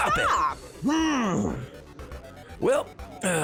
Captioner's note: grunt